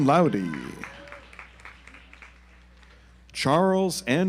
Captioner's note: audience applauds